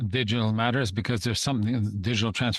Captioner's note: speaking French